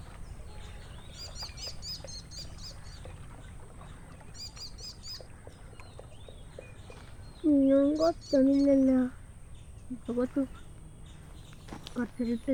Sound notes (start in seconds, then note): 1.9 birds chirping; 9.8 boys chatting